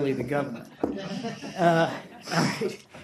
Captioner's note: laughter